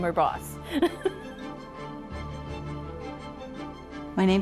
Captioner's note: laughs